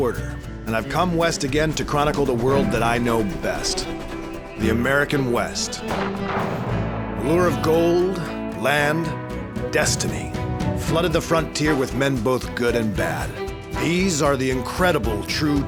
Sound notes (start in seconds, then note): 5.8 gunshots